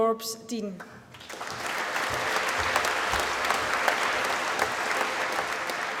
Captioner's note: applause